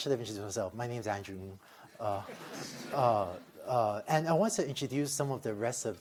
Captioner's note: laughter